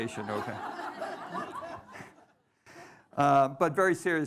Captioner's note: audience laughing